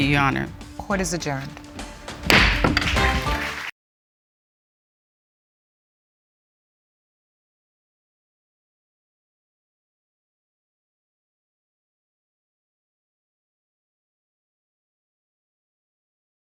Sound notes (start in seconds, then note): 2.2 gavel bangs; 2.8 applause